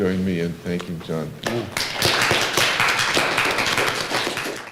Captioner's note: applause